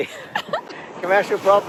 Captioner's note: both laughing